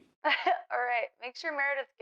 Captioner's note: Georgia laughs